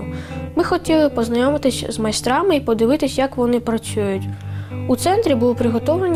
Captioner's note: speaking in foreign language